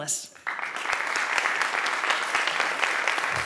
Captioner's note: applause